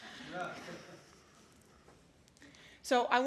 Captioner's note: laughter